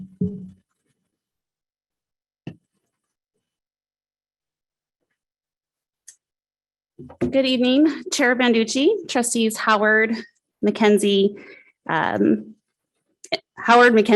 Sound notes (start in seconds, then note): none